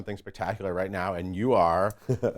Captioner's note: John chuckles